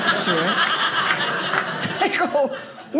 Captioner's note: audience laughing